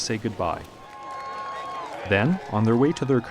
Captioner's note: crowds cheering